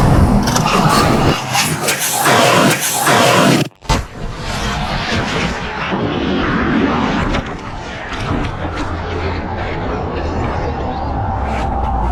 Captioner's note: crash sounds and metal scraping